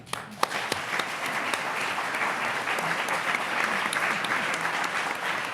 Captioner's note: audience applauding